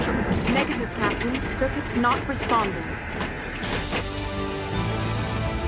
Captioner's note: rumbling